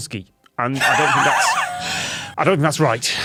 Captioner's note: wheezes